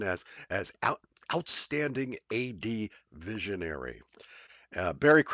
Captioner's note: chuckling